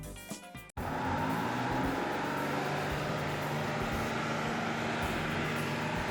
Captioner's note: bus engine rumbling continues